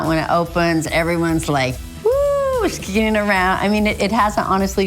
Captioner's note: squeals